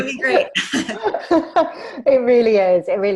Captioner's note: laughs